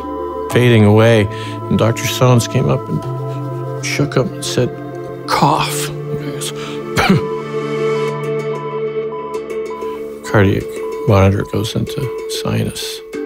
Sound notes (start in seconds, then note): 6.4 coughs; 8.2 machine beeping